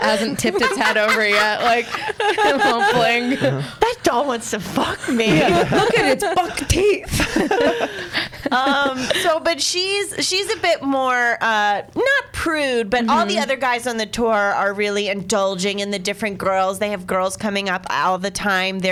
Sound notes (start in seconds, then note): 4.8 laughs